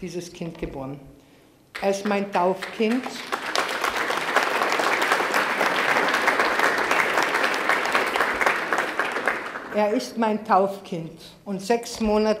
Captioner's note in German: Applaus